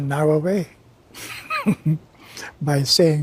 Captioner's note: giggles